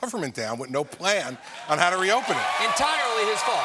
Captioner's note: cheers and applause